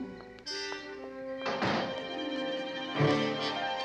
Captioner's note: door slamming